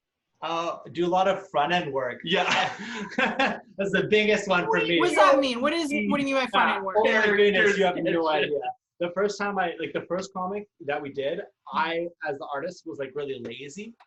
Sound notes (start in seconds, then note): 2.2 laugh